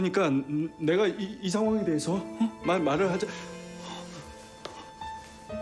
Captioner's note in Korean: 휴대전화 진동음